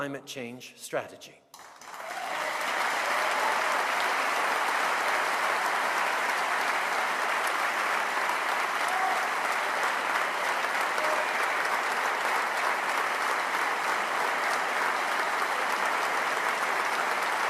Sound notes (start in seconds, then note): 1.5 cheers & applause